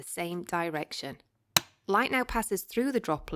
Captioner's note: switch click noise